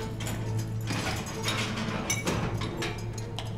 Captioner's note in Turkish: Kapı açılma sesi